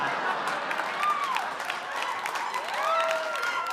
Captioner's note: audience clapping